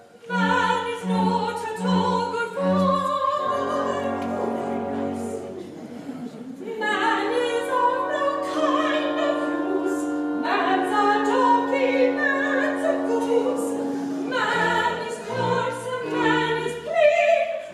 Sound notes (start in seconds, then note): 4.3 speaks; 6.6 sings